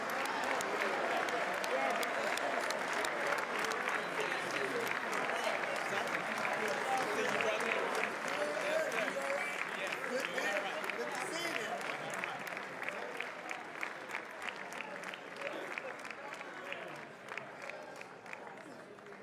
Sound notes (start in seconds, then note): 7.5 applause